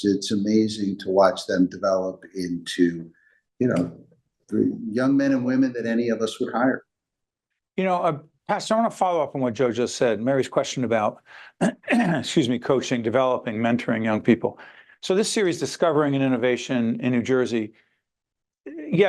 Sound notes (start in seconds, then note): 11.5 clears throat